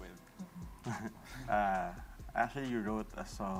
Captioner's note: chuckles